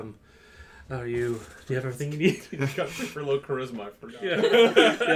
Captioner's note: cracks up at the end; laughter